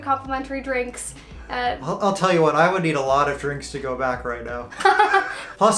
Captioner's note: laughs